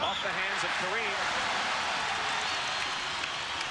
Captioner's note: crowd cheers